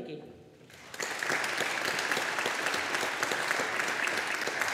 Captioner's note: audience applauding